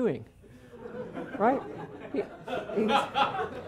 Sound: laughter

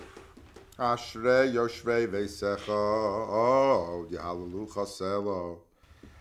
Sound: praying in a foreign language

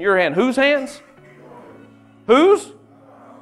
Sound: team mumbling

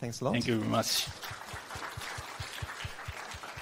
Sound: clapping

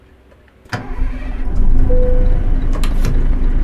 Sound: engine start

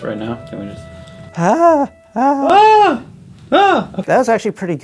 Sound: both fake screaming

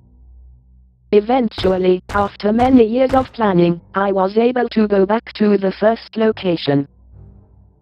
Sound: voiceover

